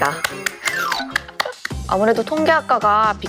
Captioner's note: clapping